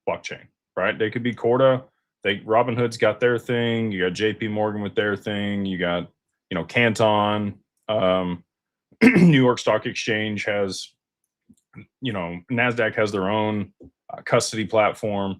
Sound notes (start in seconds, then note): 9.0 clears throat